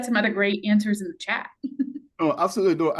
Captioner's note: chuckles